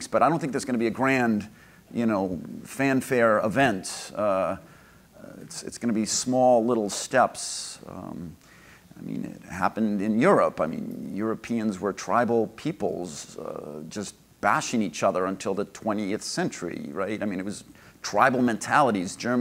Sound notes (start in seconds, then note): none